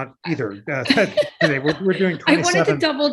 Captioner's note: laughter